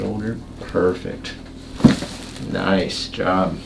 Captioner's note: cracks